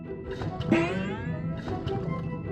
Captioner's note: pumpkin gurgling